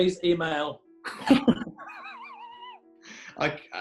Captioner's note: laughter